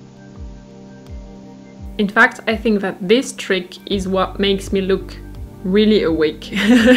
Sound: laughs

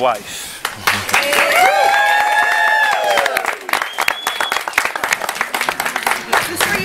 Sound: applause and cheering

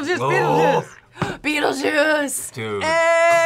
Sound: gasps

